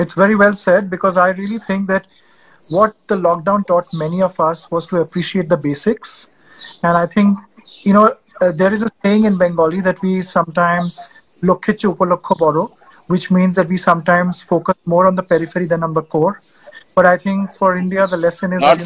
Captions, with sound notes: It's very well said because I really think that what the lockdown taught many of us was to appreciate the basics. And I think, you know, there is a saying in Bengali that we sometimes (Speaks in Bengali – not transcribed), which means that we sometimes focus more on the periphery than on the core. But I think for India the lesson is…